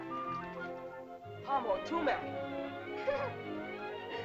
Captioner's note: soft music; boy speaking in caveman language; girl laughs